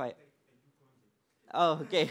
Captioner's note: laughter